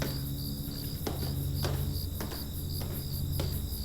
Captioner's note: footsteps clicking; crickets chirping